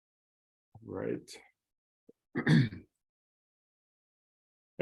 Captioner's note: coughs